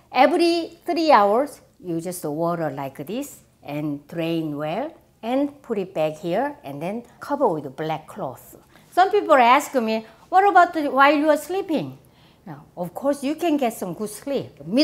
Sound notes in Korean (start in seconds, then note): none